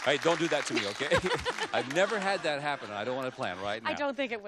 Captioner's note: applause; she laughs